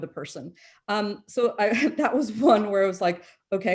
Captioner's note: chuckles